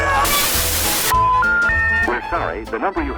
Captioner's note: out of service tone